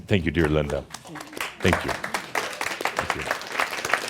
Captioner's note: audience applause